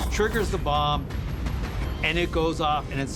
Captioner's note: explosion blasts